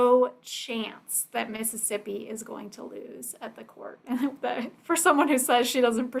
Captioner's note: chuckles